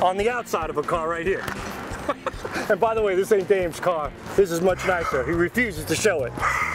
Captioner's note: laughter